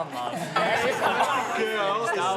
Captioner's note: laughs